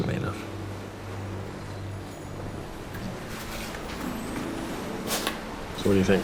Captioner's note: ocean waves rolling in